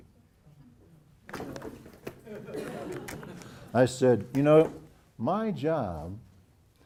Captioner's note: laugh